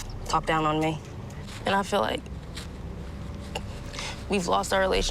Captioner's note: voice breaking